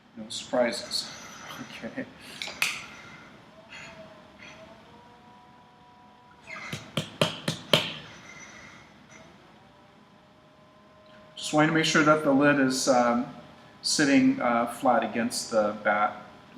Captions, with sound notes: No surprises. Okay? [ Tapping sound ] I'm just wanting to make sure that the lid is sitting flat against the bat.